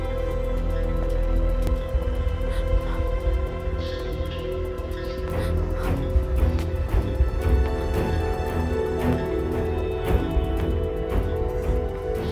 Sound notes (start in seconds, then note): 5.5 Sobbing